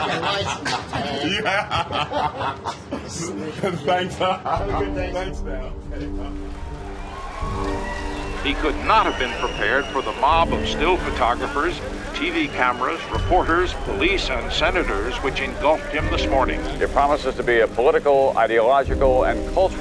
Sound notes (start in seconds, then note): 2.6 laughing; 8.3 people cheering and applauding